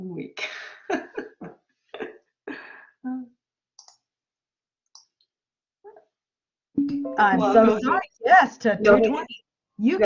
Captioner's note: laughter